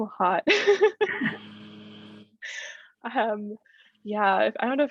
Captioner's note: laughter